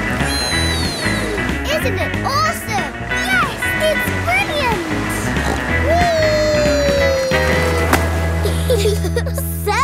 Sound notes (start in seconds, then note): 5.2 snorts; 8.4 giggle